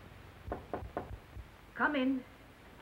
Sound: knocking on door

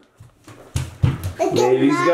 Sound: footsteps thudding

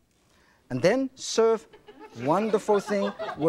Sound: audience chuckles

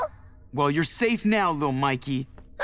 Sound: none

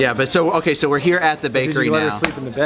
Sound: stammers

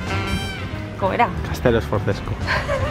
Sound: laughter

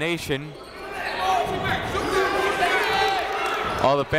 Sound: chatter

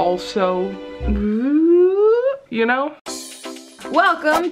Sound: mimics ascending slide whistle; bright, fun music

